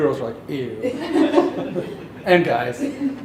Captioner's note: laughter